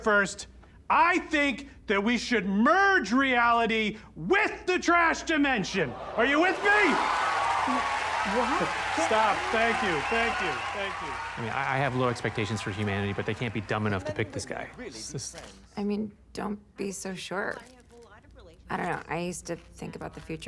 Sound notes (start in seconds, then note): 4.5 audience gasps; 6.1 audience cheering, applauding